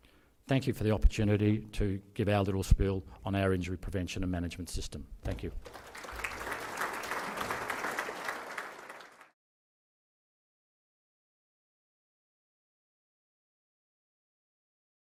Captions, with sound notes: Thank you for the opportunity to give our little spiel on our injury prevention and injury management system. Thank you. (audience applauding)